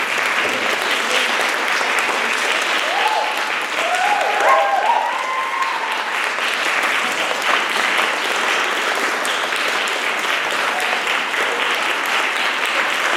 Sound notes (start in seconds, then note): 0.0 applause, cheers